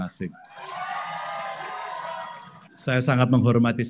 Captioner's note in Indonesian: tepuk tangan